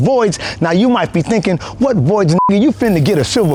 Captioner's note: beep